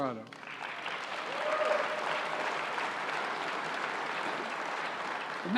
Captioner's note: applause